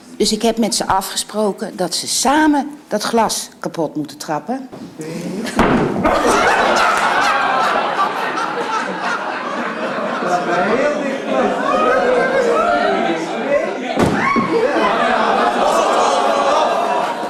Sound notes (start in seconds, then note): 6.0 laughter